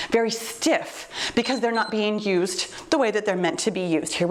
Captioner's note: timer beeps